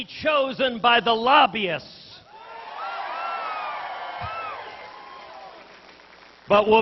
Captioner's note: applause